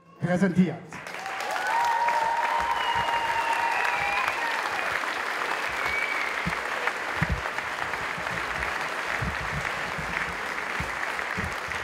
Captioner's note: applause